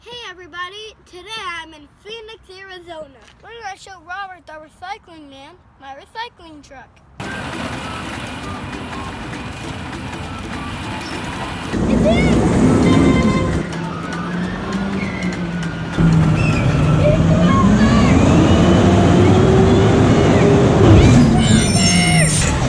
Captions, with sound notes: Hey Everybody! Today, I am in Phoenix, Arizona. We're gonna show Robert the Recycling Man, my recycling truck! It's him! [Honk!] [Honk!] [Honk!] It's Robert! It's Robert! It's ROBERT!!